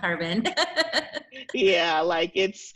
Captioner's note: laughs